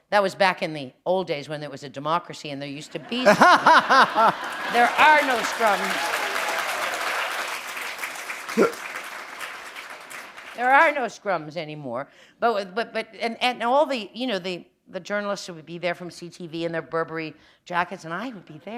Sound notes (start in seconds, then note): 3.0 laughter; 7.8 applause